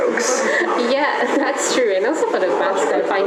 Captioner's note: laugh